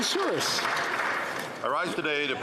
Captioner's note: some Applause